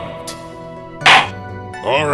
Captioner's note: gavel slams!